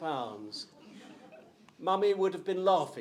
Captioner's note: crowd chuckles